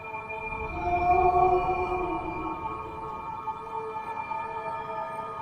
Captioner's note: high pitched frequency